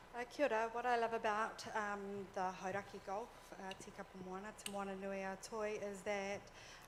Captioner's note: foreign language